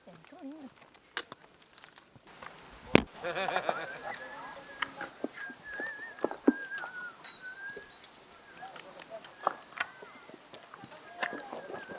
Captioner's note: water splashing